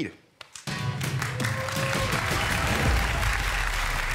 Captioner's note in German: Jubel und Applaus